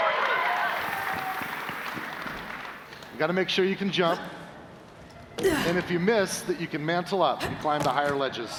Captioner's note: cheers and applause